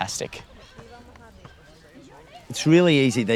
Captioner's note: indistinct chatter